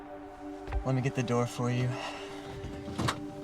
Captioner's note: sighs